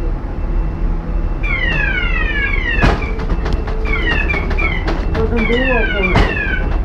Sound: lift siren, lift being shaken

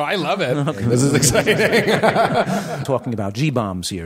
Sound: laughing

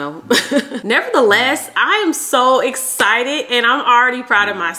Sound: chuckles

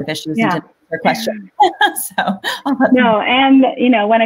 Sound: laughs

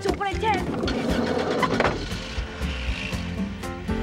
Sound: car starts

